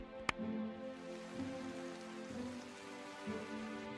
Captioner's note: sound of gentle rain; clapping